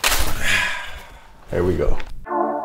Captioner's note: Davante sighing